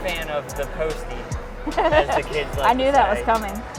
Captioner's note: laughing